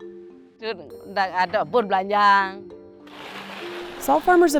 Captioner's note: speaks in a foreign language